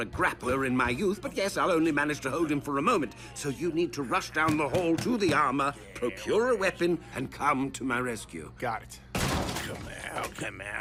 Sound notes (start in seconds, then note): 9.1 door slams